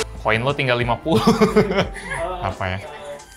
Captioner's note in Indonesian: tertawa